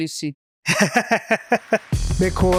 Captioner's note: laughs